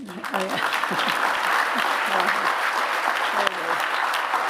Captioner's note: applause